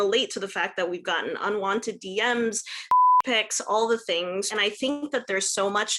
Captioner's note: beep